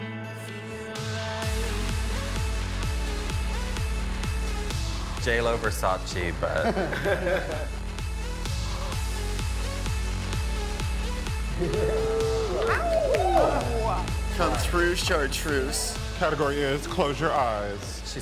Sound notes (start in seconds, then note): 1.3 upbeat music; 6.4 group laughing; 7.8 upbeat music continues; 11.5 group cheering